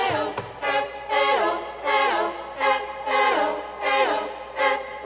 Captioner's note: chanting